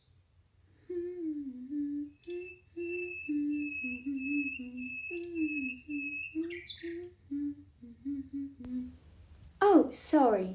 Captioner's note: humming